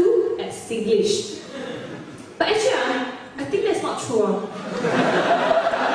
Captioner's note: switches to Singlish accent